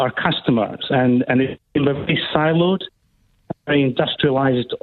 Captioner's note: technical feedback disrupts speaker